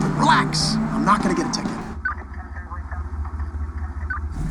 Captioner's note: police radio crackling